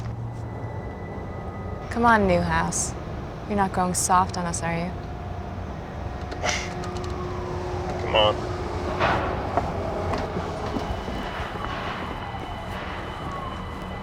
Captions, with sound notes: COME ON, NEWHOUSE. YOU'RE NOT GOING SOFT ON US, ARE YOU? [ SCOFFS ] COME ON. [ SIREN WAILS ]